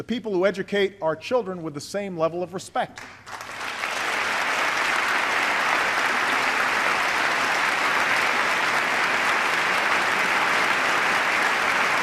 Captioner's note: applause